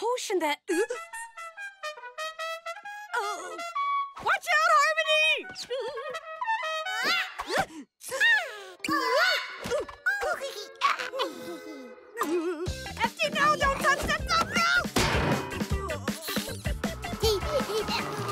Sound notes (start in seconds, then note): 1.7 horn playing; 9.6 giggling; 16.0 giggling